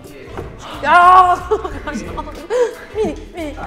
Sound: laughter

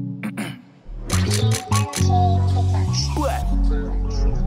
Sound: camera clicking

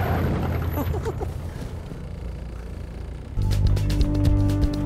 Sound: Alex chuckles; upbeat music

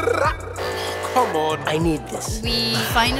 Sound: sigh…

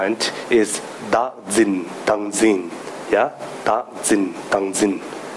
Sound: speaking in foreign language

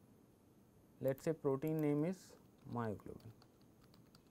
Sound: click

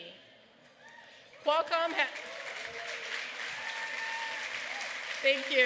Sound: applause

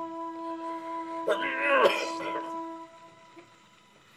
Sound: sad music playing; grandpa coughing

